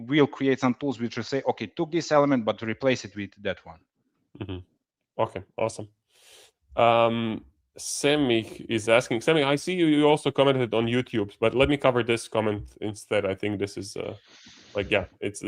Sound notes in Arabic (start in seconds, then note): 7.0 يضحك بسخرية